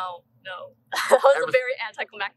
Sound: laughter

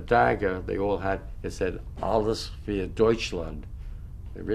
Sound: german

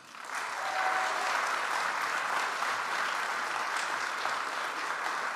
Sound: audience applauds

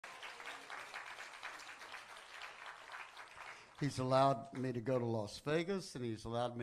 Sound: congreation applauds

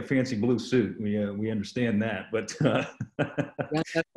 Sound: laughs

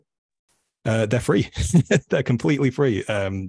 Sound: chuckles

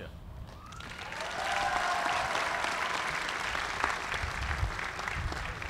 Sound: applause

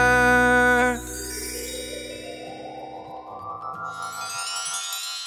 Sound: bells chiming

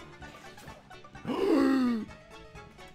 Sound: inhales

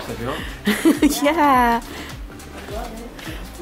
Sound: laughing

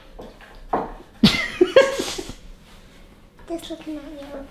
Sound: laughs

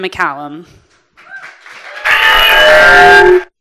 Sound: audience applauding

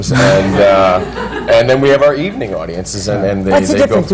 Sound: laughter

